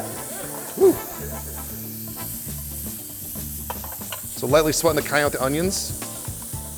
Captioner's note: laughter